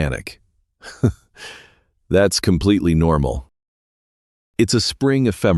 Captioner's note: chuckle